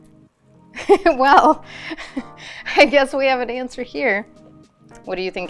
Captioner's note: laughs